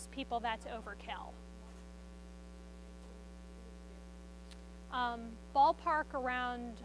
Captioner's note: student speaks faintly